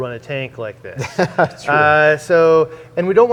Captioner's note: laughs